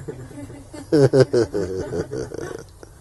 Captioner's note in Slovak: Smiech